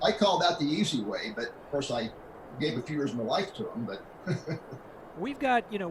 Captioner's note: laughs